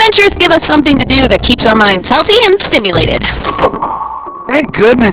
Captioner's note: doorbell rings